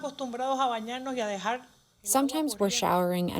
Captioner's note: through translator